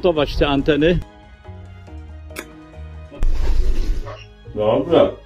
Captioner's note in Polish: cmoknięcie